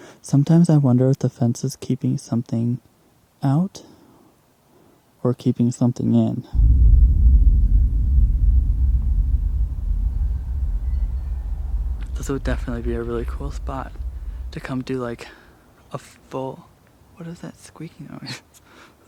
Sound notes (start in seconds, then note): 6.5 ominous noise